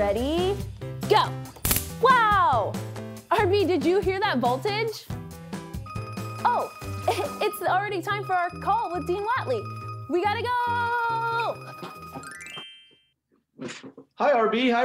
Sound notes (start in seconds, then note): 2.9 electric clicks; 6.1 ringing